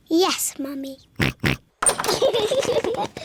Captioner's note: oinking; both laugh